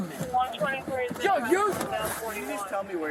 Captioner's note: radio chatter